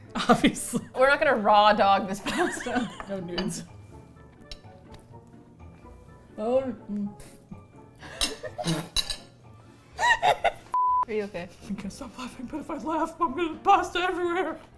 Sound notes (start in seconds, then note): 2.3 laughing; 7.4 laughs